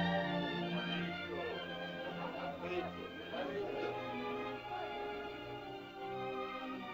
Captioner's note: uplifting music; indistinct caveman chatter; soft music